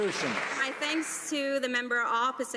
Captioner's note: some Applause